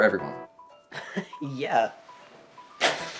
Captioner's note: chuckles